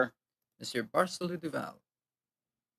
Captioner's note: speaking French